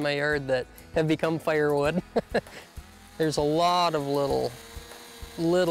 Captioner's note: laughs